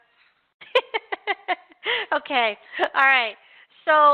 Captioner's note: laughs